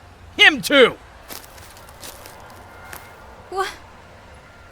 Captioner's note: footsteps